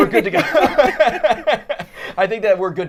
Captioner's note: all laughing